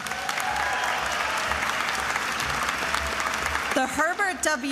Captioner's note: attendees applauding and cheering